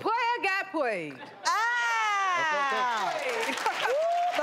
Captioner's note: audience clapping